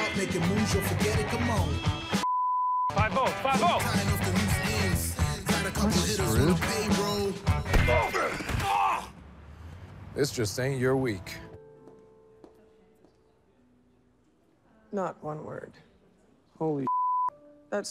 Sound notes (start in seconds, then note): 2.2 beeps; 7.4 fist whacks; 10.8 gentle piano music; 11.8 footsteps tapping; 16.9 beeps